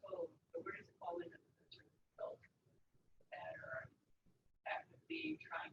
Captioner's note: speaking away from mike